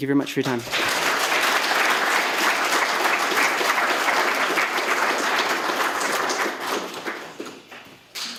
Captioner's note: applause